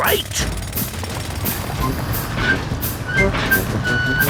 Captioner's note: drilling